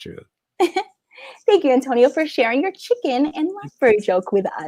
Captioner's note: laughs